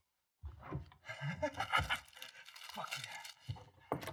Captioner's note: snicker